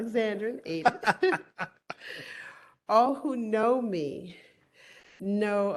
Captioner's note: laughter